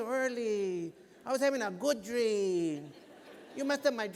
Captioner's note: laughter